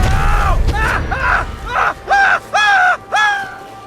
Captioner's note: yelling